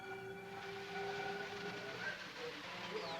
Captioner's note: machines whirring, beeping